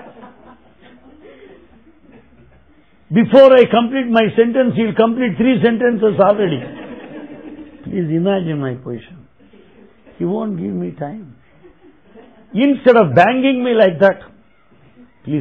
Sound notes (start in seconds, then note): 1.0 laughter